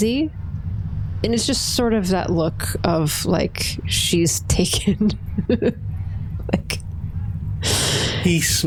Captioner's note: laughs